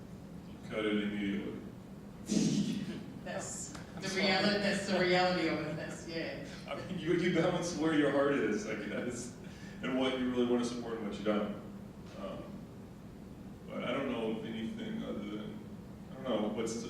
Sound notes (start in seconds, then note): 3.2 laughing